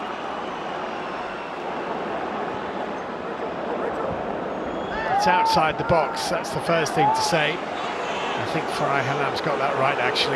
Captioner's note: audience oohs